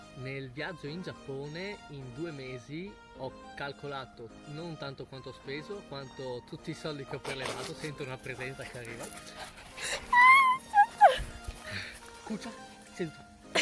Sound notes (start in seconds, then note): 10.0 screaming